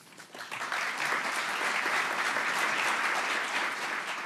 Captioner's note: audience clapping